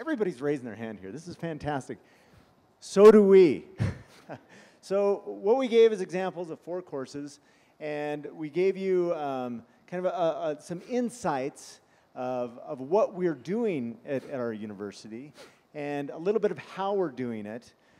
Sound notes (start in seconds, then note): 3.8 laughter; 15.3 sniffing